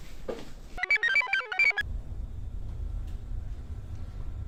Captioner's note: computer chirps